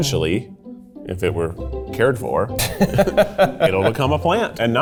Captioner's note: laughing